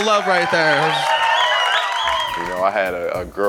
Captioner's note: audience cheering